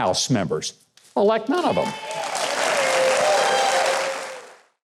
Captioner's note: audience cheering